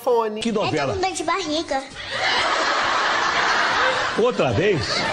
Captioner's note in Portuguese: risos